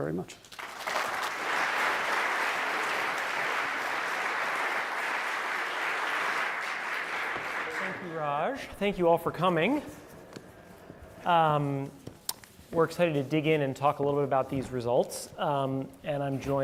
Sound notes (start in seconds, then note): 0.4 applause